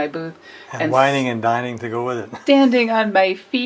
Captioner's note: laughs